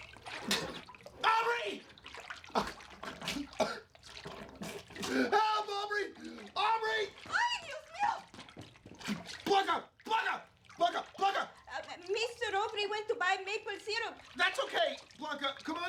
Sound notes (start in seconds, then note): 1.5 gasping